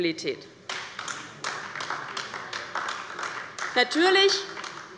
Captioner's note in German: Beifall bei der LINKEN